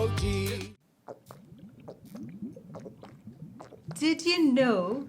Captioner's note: boy chugs water